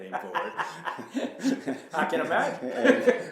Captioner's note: laughing